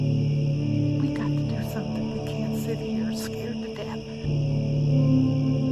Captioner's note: crickets; crickets, eerie music